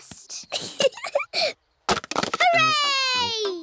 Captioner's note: giggling